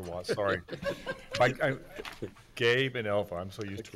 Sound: giggling

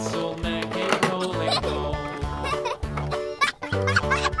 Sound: toys clatter

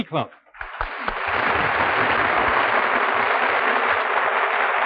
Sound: audience applauding

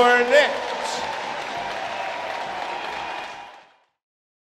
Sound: crowd cheers

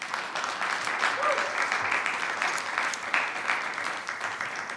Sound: attendees clapping; attendee cheers

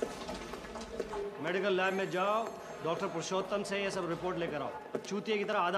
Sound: speaking foreign language

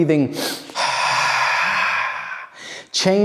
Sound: quick inhale, long exhale

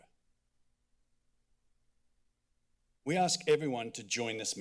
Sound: silence

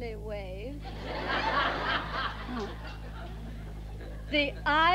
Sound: audience laughs

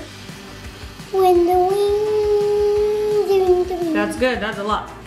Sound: humming

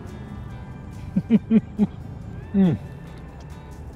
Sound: laughs

